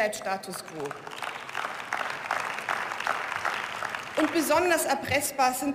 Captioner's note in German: Beifall